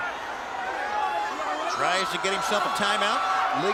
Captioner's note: audience members taunting